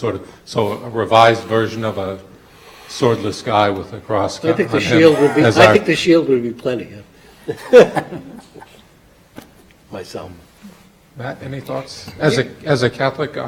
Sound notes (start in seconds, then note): 7.7 laughs